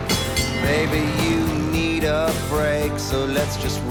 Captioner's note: bell ringing